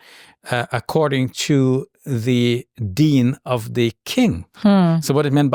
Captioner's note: speaking foreign language; speaking foreign language